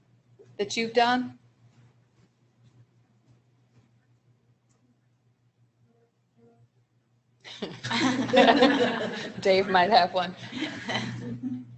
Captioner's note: laughter